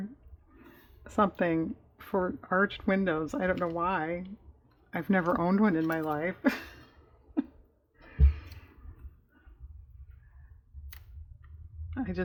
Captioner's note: laughs